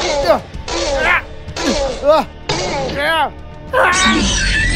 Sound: Velociraptor Sounds

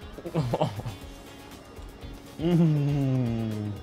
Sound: laughs

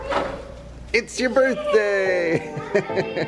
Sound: laughs

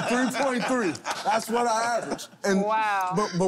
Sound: laughter

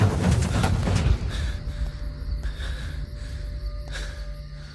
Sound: panting

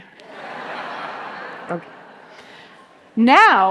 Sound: audience laughing

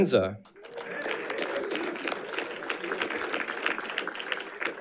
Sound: audience applauding

